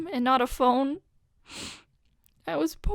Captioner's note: sniff